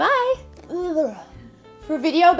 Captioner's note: groans